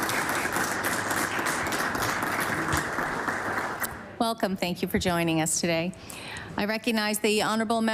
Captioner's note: applause